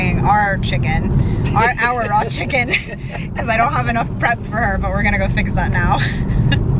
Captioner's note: laughs